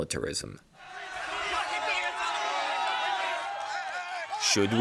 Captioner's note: shouting